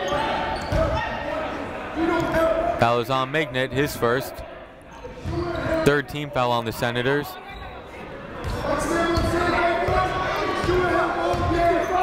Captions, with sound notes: (shouting) Foul is on Mignot, his first. Third team foul on the Senators. (shouting)